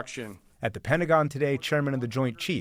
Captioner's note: voice-over